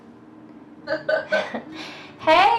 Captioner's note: patient laughing